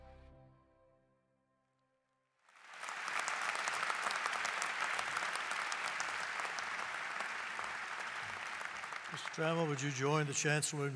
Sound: applause

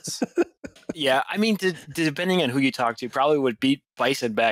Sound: laughter

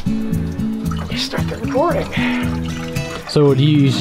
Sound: water running

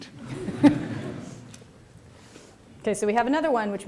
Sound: laughter

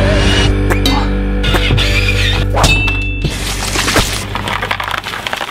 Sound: drilling and banging; candy canes crunching

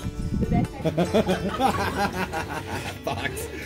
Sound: laughing

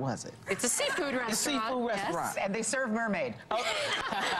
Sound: laughter

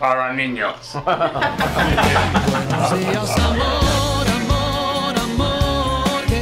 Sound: laugh

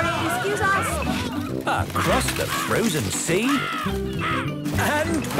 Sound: birds cawing

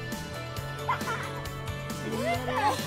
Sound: child laughs

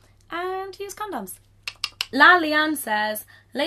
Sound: clicking tongue

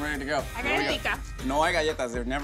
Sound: speaks in a foreign language

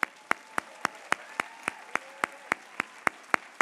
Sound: applause

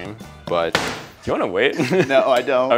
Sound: pounds the meat pounder; chuckles

